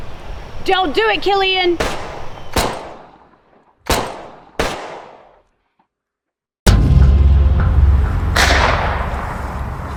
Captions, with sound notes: Don't do it, Killian. (gun fires) (suspenseful music)